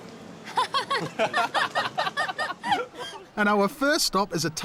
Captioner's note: laughter